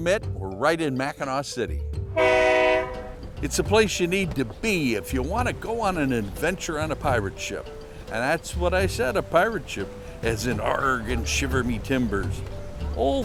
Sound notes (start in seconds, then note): 2.1 honk